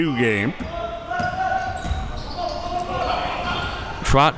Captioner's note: coaches yelling